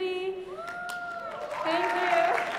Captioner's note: applause